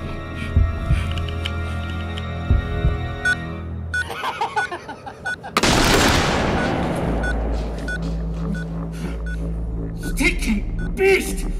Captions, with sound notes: (machine beeping) (man laughing) (gun banging) - Stinking beast.